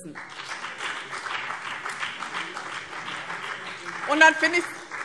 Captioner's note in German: Beifall BÜNDNIS 90/DIE GRÜNEN